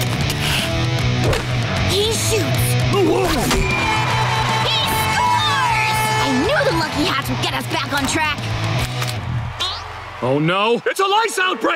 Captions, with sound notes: He shoots... [grunting] He scores! I knew the lucky hats would get us back on track! Oh no, it's a lice outbreak!